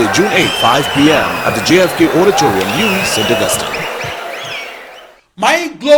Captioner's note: wild applause and cheering for 22 seconds